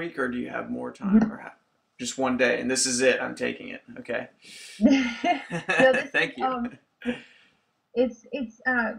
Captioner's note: laughs